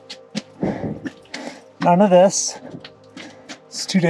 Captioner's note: none